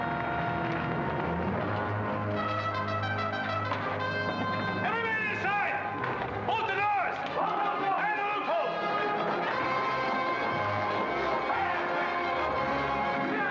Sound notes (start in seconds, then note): 0.0 ominous music; 7.3 men shouting; 9.6 dramatic music